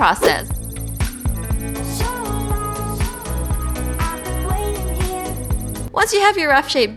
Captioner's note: loading sound